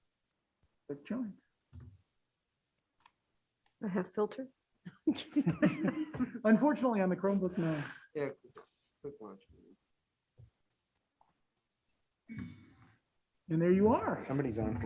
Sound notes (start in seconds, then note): 5.0 members chuckling